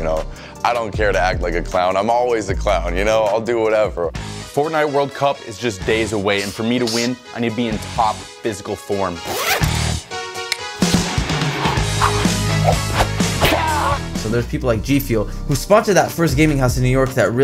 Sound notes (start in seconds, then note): 9.2 zipper; 10.6 upbeat music; 11.3 air whoosing